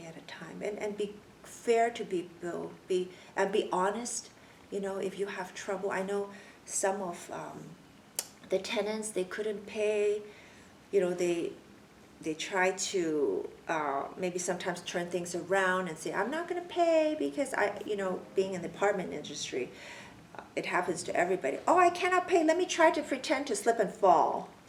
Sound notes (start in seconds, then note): 8.2 clicks tongue